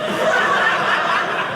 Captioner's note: audience laughing